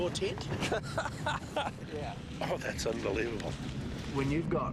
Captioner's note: laughs